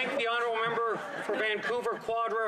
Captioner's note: laughter